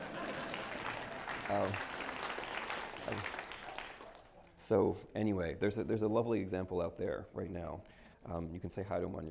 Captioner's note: applause